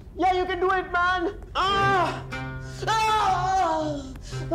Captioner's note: Screaming